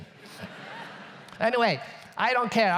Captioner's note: audience laughs